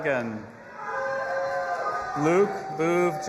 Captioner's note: audience applauding and cheering